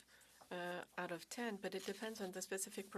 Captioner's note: speaking French